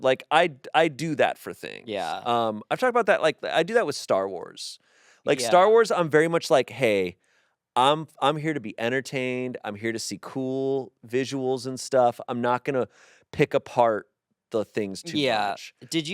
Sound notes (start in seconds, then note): none